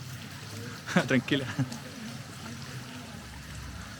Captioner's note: laughs